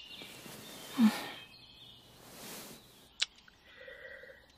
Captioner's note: kiss